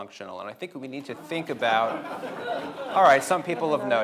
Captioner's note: audience laughing